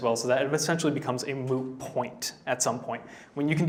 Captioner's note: none